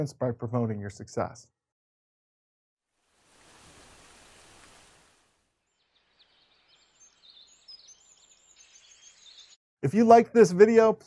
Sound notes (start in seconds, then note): 3.0 birds tweeting; 3.1 rain pattering